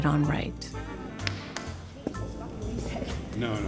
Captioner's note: clap